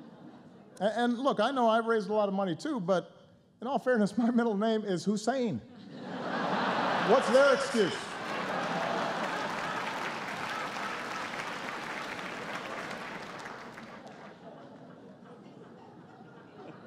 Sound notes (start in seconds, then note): 0.0 laughter; 5.7 laughter; 7.1 laughter and applause